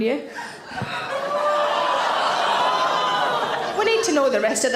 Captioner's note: audience gasp and groan